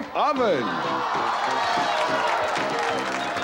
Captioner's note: crowd gasping and applause